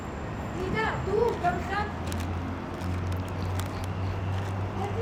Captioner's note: lady speaking Armenian